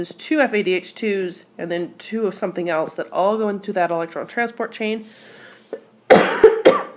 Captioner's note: cough